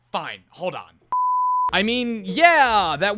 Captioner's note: beep